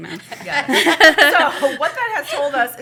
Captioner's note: laughter